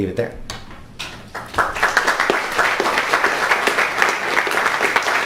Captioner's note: crowd applauds